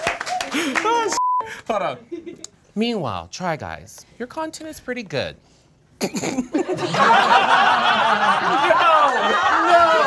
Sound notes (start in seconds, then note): 0.0 all applauding; 6.3 all laughing; 6.4 laughs